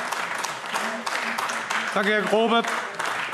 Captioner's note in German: Beifall AfD